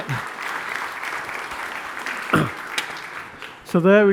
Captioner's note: applause